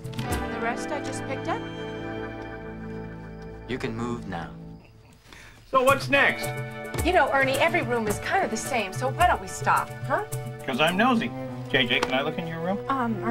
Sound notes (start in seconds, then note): 3.4 whispering